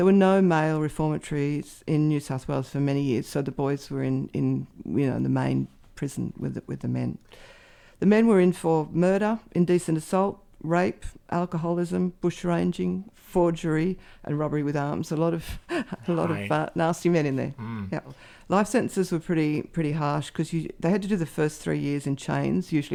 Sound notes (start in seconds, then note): 15.6 laughs softly